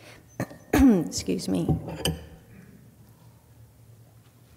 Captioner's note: clears throat